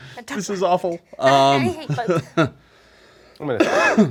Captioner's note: laughing